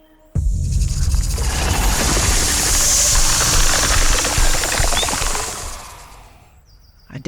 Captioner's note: snake rattles; snake hisses